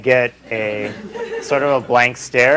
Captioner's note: laughter